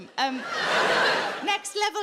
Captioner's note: audience laughs